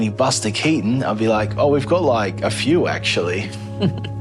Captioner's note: laughs